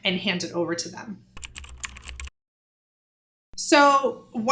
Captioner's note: keyboard clicking